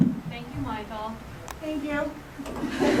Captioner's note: laughter